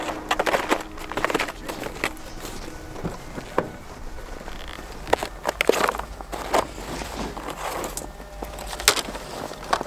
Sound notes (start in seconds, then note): 0.2 snowy footsteps crunching; 3.1 vehicle opening; 5.1 snowshoes creeking